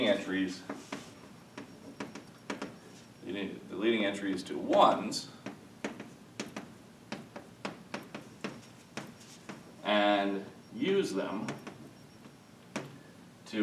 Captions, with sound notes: the leading entries to ones (chalk tapping) and use them